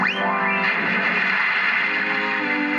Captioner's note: splash